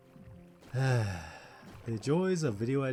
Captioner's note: sigh